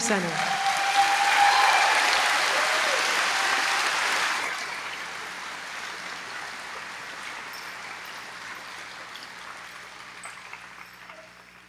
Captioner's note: applause